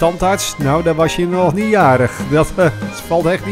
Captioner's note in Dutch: Voiceover